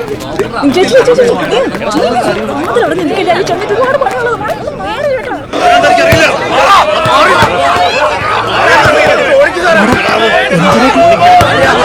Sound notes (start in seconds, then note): 6.2 protest Commotion